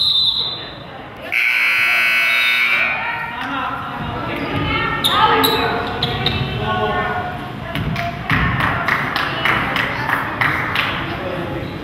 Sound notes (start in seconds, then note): 0.0 whistle blows; 1.3 buzzer goes off; 8.3 crowd claps